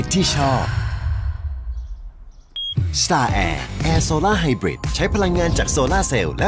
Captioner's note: sigh